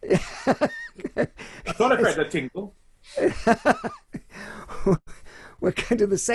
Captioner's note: laughs loudly